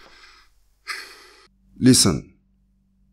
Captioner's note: sigh